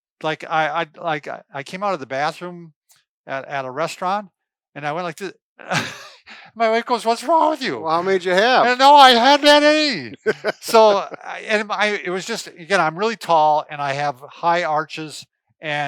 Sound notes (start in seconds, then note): 10.5 laughs